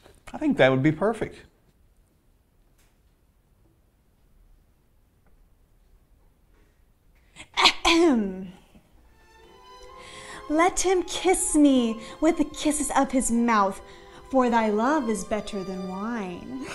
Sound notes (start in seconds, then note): 7.5 clears throat